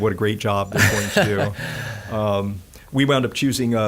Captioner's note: laughing